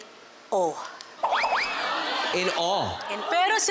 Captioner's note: silly sfx